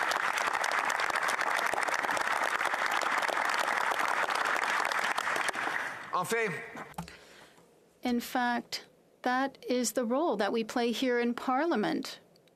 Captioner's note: applause